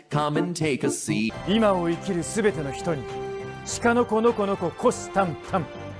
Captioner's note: speaking in foreign language